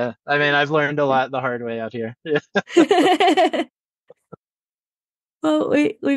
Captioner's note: laughs; laugh